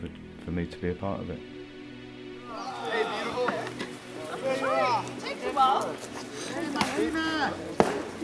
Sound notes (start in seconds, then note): 4.7 chattering